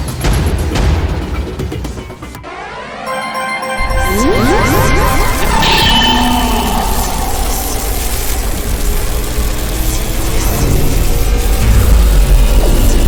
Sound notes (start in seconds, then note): 3.0 chime ringing; 4.0 electricity crackling